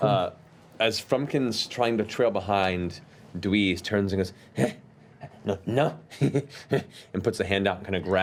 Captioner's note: heh heh; heh